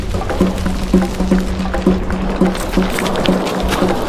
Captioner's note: fire crackling; dramatic music continues